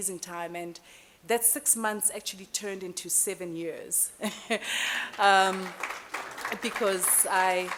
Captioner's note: applause